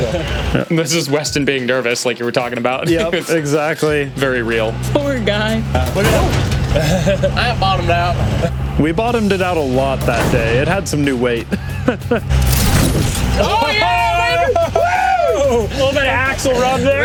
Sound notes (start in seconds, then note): 5.6 Bronco bumps; 5.7 laughs; 11.4 laughs